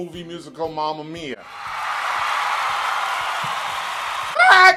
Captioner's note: crowd screaming and cheering